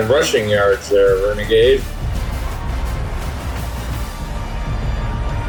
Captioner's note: crowd Noises